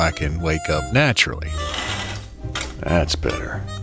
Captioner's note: SFX: opening curtains